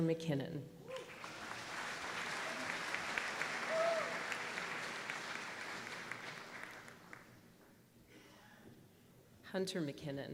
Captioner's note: applause